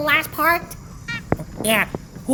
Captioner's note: squeak